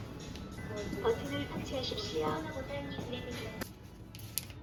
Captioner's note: Korean voice guide